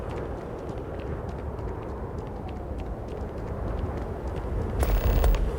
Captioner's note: sounds Of Guns